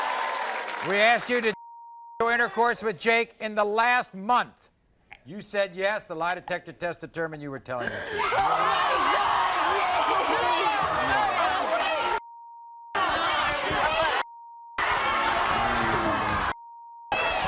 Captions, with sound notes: - We asked you did (beep) intercourse with Jake in the last month, you said yes, the lie detector test determined you were telling the truth. - Oh my God, Jake (beep) (beep) (audience screams)